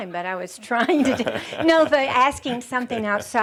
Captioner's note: they chuckle